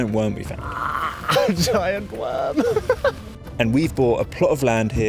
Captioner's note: laughs